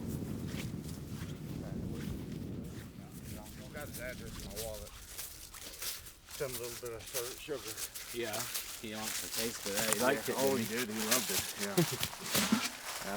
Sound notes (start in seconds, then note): 7.1 chatter